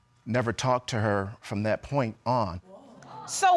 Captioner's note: audience exclaims